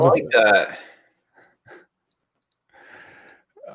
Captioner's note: chuckles